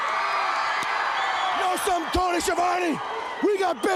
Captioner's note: crowd cheering